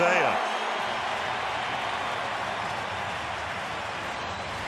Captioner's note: cheering